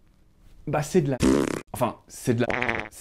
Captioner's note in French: silence; autre bruit de pet; bruit de pet